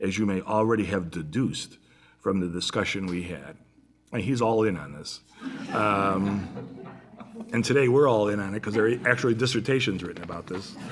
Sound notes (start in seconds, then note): 5.4 laughter